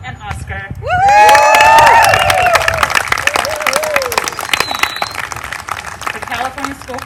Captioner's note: applause